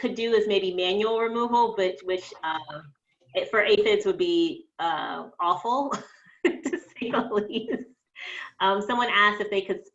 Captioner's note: laughs